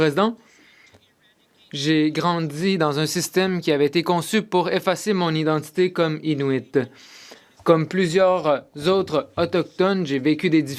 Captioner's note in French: voix de l'interprète